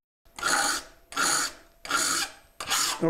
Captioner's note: metal-on-metal scraping